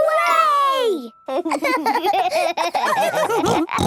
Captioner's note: giggling; laughs, snorts